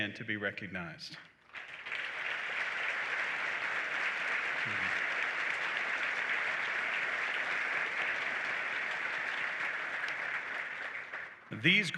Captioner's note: applause